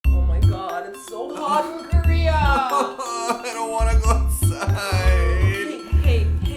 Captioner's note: cries